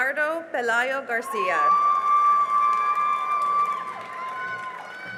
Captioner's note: cheering and applause